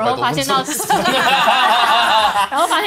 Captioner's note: laughs